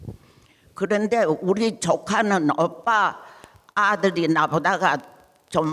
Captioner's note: speaking in foreign language